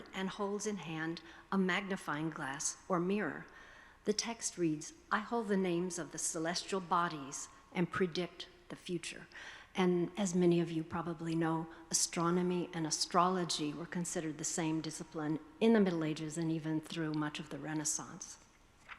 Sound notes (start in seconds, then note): none